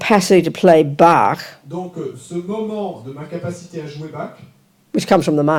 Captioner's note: audience member speaks in French